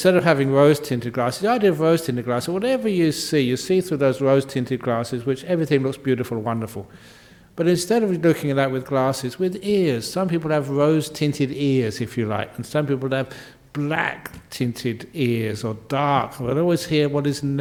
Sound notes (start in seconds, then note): none